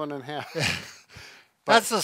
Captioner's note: laughs